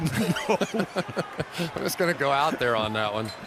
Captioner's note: laughter